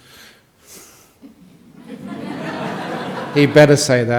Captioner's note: laughter from the audience